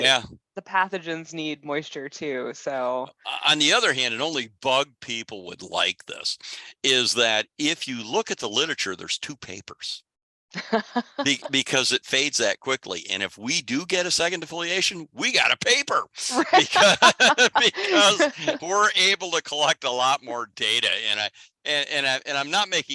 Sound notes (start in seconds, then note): 10.5 laughs